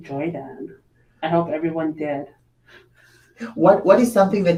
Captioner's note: chuckles